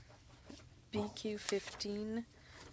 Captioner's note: speaking French